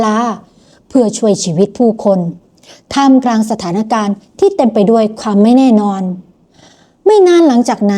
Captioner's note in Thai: เสียงสูดหายใจ